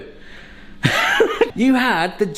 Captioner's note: laughs